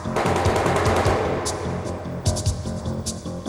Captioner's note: gun firing